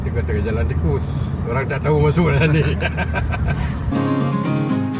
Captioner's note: laugh